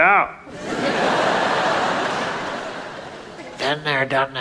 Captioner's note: audience laughs